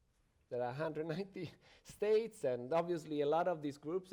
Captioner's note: chuckles